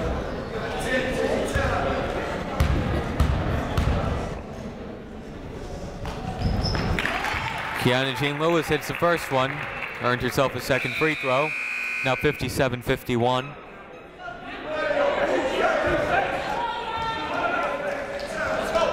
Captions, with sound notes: (crowd clapping) Keyanna Jean-Louis hits the first one. Earned herself a second free throw. Now 57-51. (people shouting in the crowd)